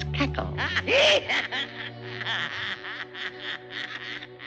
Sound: voice cackling

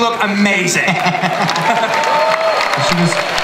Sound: applause

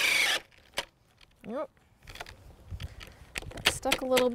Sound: drill whirring, no additional audio

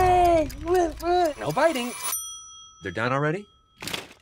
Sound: ding

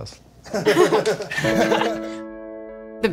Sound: laughter

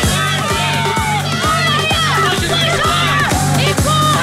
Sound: upbeat music; contestants yelling

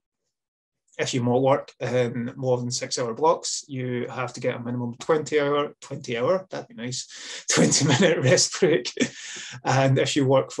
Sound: laughs

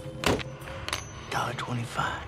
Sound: quarter jingles

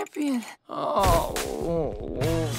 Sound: groaning

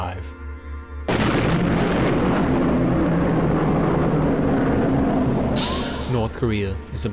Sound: explosion

